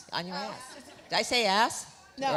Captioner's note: laughs